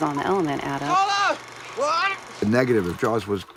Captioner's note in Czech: muž sténá